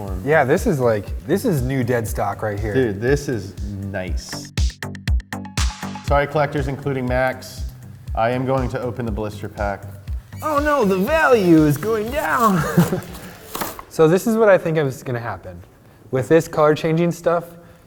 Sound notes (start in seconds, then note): 4.1 upbeat music; 12.0 chuckles